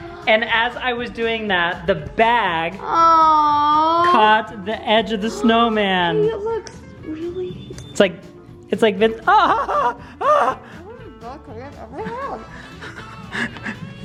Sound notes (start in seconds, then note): 10.6 gasps